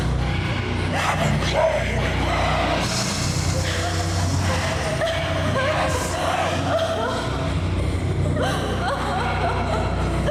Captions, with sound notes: - We're your friends. (woman screams)